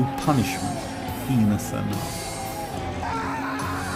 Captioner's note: yells